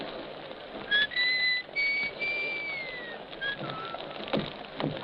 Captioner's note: whistling